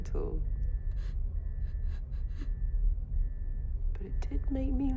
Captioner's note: sobs